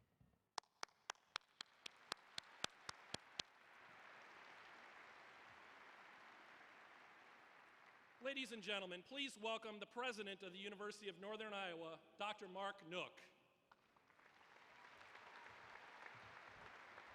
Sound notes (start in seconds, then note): 6.9 applause